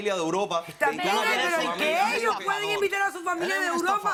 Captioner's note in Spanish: Hablan al unísono